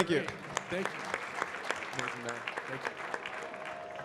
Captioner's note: audience clapping